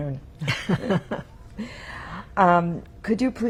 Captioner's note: laughing